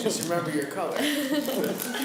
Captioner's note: laughs